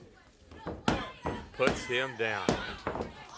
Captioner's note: hand smacking